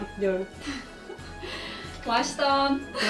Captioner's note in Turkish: gülüşmeler